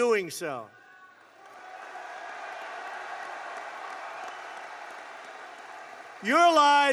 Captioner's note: applause